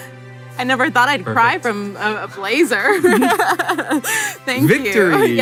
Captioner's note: laughing